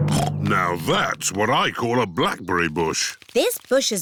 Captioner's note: snorts